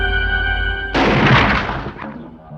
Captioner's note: gunshot